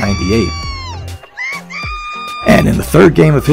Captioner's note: audience cheering